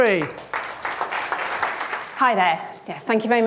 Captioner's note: applause